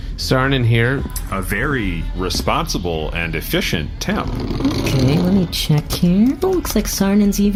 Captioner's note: typing